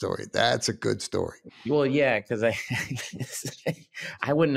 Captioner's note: laughs